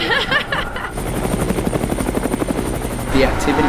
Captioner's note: laughter; helicopter